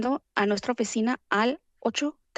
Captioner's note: foreign language